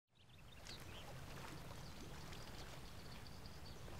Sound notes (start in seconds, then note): 0.1 birds chirping